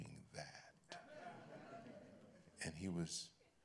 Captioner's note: laughter